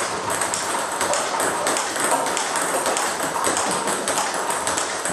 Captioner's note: ball ping pong hitting continues